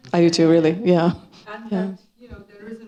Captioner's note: coughing